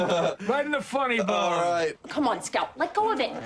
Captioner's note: laughs